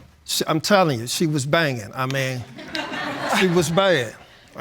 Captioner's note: laughter